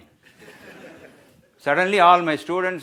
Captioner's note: audience laughs